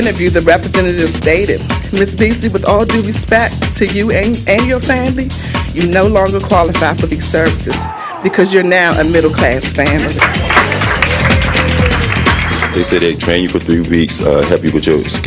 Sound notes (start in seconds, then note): 9.8 applause